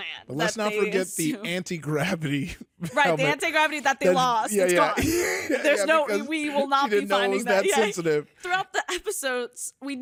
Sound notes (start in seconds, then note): 4.9 both laughing